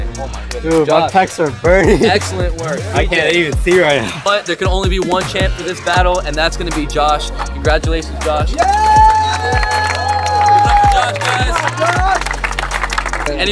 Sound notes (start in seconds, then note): 8.6 crowd cheers and claps hands